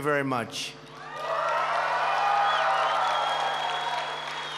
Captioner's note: applause